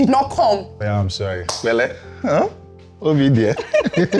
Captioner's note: laughs